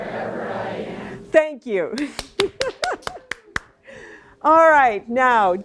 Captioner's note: laughs and applauds